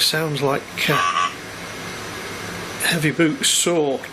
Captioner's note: computer buzzes